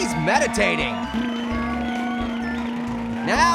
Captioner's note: motorboating